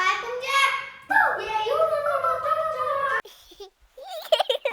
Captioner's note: children chattering; girl giggling